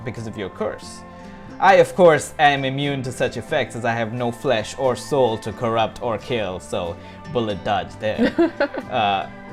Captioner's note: laughter